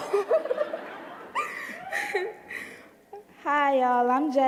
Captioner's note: giggling